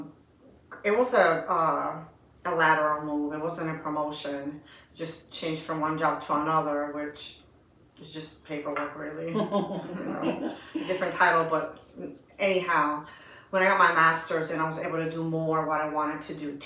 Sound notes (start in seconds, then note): 9.3 laughter